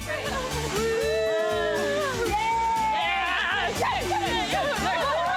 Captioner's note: girls cheer and laugh